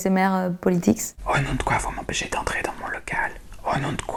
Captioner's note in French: Chuchoté